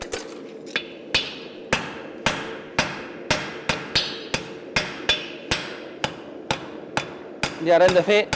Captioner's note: sharp metallic hammering